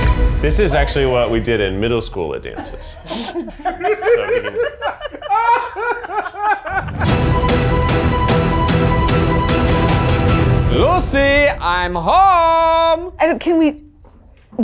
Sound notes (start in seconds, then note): 0.0 exciting music; 2.5 all laughing